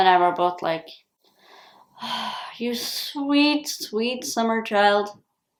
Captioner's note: sigh